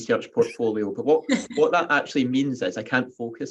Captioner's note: laughing